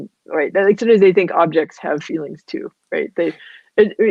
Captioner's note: voice muffled